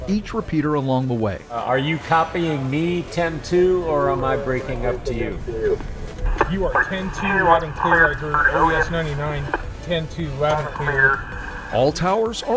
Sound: radio traffic

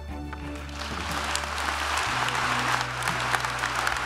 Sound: audience applauds

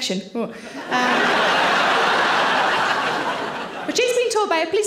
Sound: audience laughing

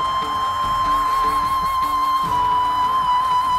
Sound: conch blows

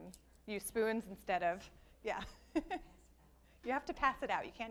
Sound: laughs

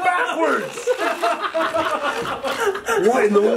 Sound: laughing

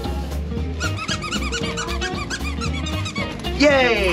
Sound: toy squeaks

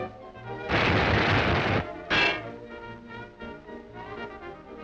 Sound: thumps and clanks

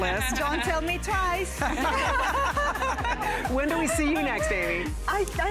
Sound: laughter

